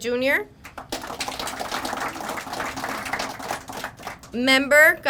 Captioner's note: crowd applauding